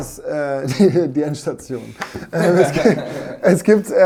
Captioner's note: lacht